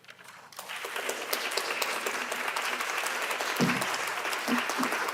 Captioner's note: audience applauding